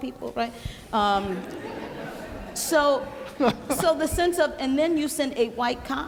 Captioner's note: laughing